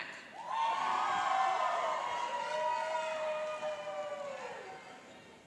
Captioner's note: cheering and applauding